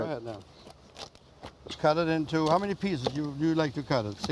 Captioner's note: chopping